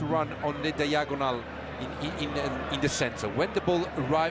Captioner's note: foreign language